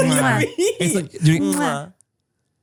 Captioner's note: all smooch